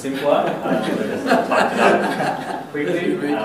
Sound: laughter

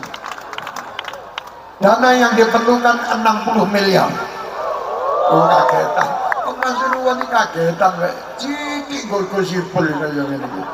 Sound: applause; laughs

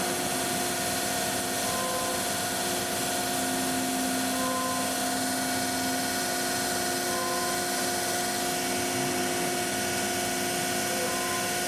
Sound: machine cutting

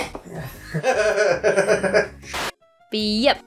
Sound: laughs

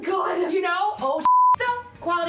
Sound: screen beep

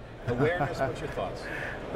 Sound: laughing

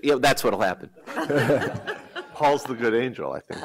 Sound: laughter

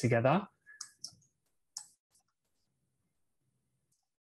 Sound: mouse clicking

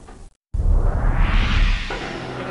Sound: hot air rippling

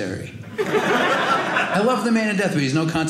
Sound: audience laughing

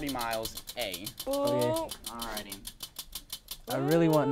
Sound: wheel spins

